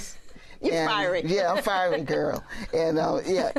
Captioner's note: laughs